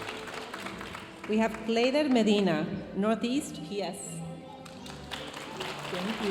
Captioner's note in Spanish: hablando en inglés; aplausos de la audiencia